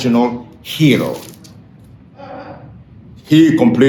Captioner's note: pages rustling